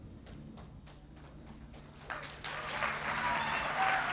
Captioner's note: applause